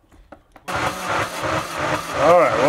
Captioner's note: machine rhythmically whirring